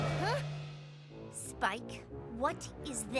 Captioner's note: slam!